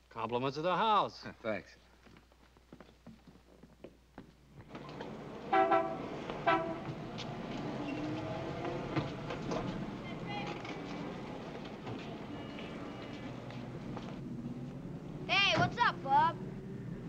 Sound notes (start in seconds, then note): 5.4 horn honking